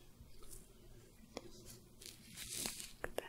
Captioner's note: soft brushing, sticky sounds